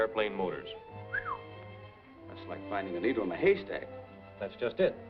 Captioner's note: whistles